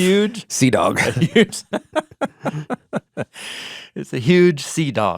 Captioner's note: both laughing